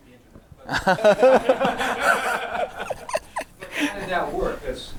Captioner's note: audience laughing